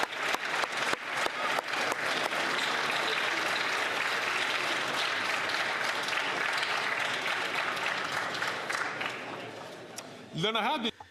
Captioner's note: some Applause